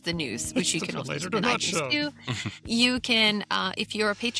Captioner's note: chuckles